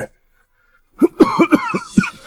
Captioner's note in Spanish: Tos, tos, tos